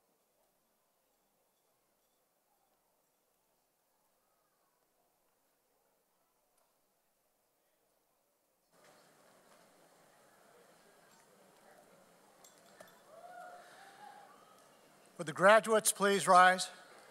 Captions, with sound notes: (audience cheers) Would the graduates please rise.